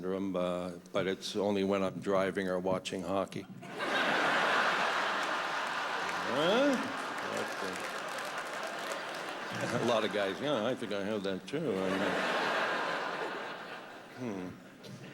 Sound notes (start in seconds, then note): 3.6 laughter; 13.3 laughter